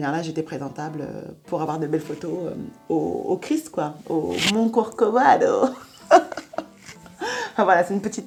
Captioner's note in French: rires